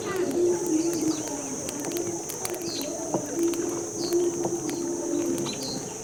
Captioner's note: fire crackles